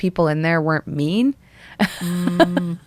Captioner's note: laughter